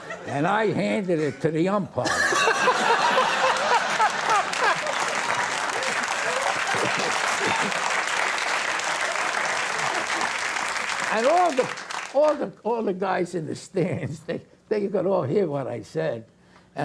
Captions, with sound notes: And I handed it to the umpire, (audience cheering) and all the guys in the stands, they could all hear what I said.